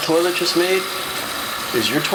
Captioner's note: running water